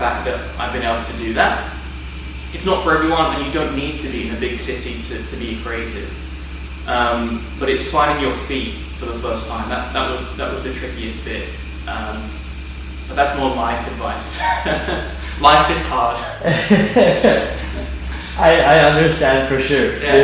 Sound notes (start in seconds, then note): 14.2 laughs; 16.2 both laughing